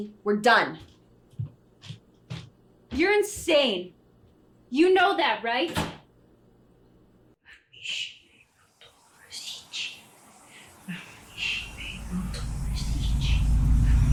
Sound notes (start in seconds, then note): 5.9 door closes; 7.6 Jessie whispering; 11.1 tense horror music